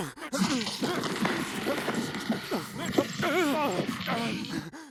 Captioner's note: sonidos de pelea